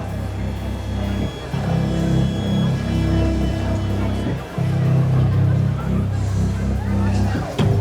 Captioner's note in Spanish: Bullicio